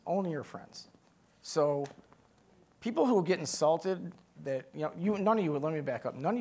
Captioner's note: none